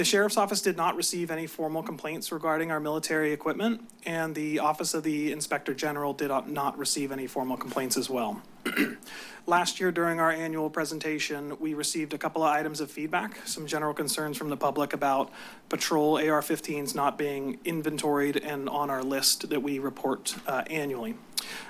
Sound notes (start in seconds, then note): 8.6 clears throat